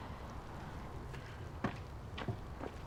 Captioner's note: none